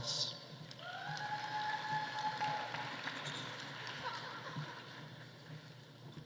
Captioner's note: audience cheering; audience applauding